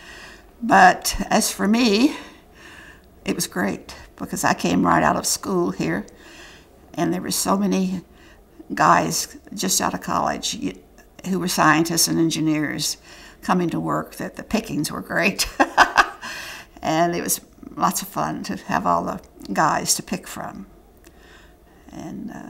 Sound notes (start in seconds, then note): 15.4 laughter